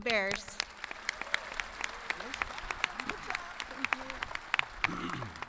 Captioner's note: audience clapping